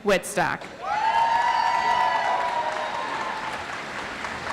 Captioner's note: audience applauds